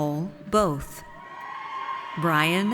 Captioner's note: audience cheers